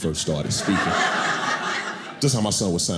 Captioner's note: audience laughing